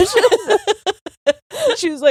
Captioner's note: both laughing